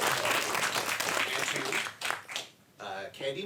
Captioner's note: audience applauds